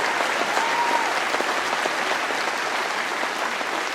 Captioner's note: applause